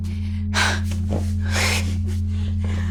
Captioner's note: gasps and sighs